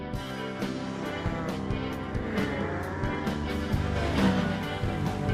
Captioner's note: engine roaring